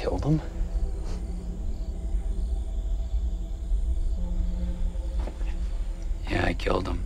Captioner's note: crickets chirping; tense music